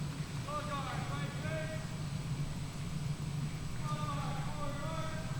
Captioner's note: man speaking faintly off mic